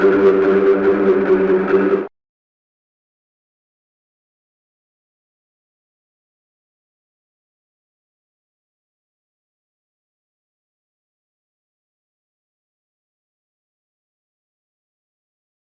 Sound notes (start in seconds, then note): 0.0 intense music; 2.3 silence; 14.7 silence